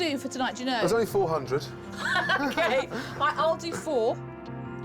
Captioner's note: laughing